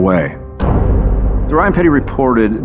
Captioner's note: door slams